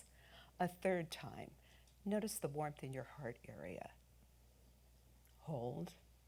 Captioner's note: exhales